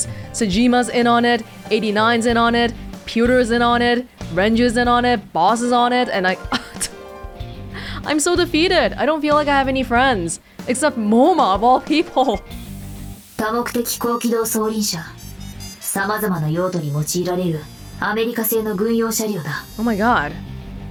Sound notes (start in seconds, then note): 7.4 scoffs